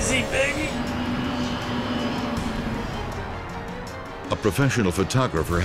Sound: plane whirring

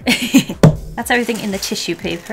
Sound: laughs; smack

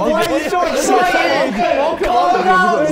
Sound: Sidemen laughing

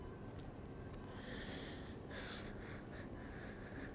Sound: breathing deeply; breathing shakily

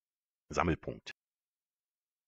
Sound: fast Pronunciation

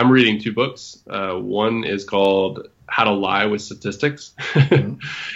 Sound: laughs

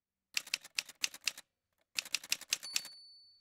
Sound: typewriter sounds

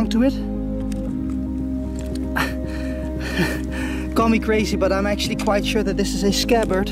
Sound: laughs

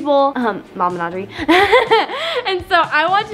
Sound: laughs

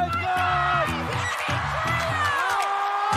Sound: cheering

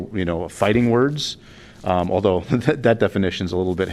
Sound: laughter

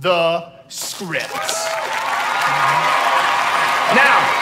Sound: cheers and applause

